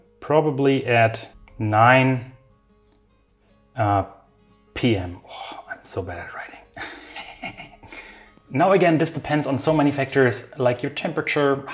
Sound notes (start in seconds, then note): 6.8 giggling